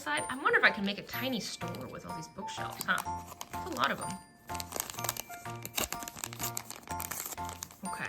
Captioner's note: none